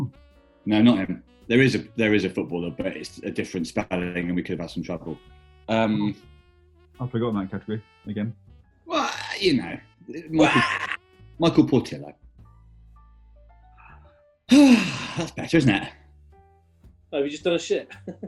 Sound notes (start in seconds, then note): 10.3 key wails; 14.5 sighs